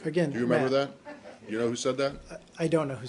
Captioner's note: laughter